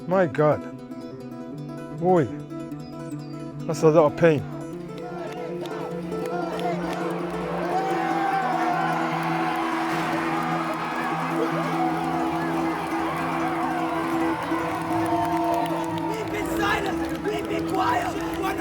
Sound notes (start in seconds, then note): 5.3 crowd; 7.9 crowd cheering